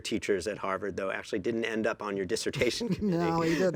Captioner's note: laughs